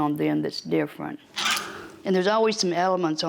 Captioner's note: hangers squeak